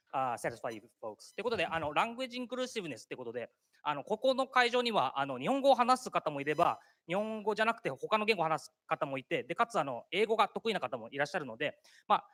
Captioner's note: speaking japanese